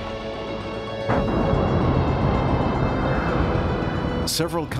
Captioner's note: huge explosion